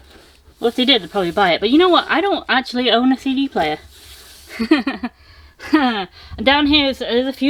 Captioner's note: laughter